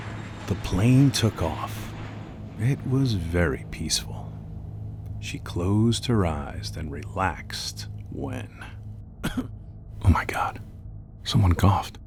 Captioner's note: cough